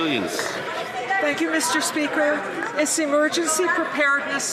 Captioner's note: some Applause